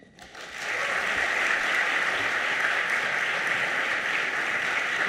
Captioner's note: audience applauding